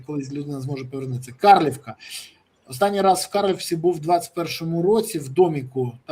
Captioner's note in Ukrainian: сопіння